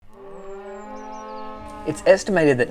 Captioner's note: cow mooing